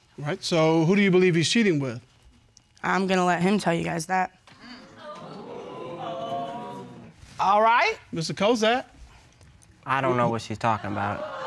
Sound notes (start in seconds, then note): 4.9 audience exclaiming